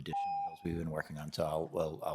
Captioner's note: timer tone